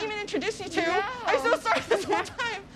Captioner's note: laughs